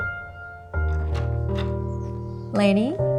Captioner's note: door opens